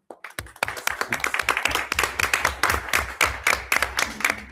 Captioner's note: everyone applauds